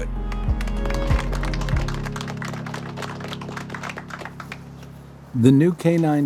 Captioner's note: clapping